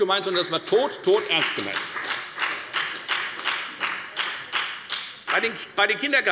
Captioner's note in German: Beifall bei der FDP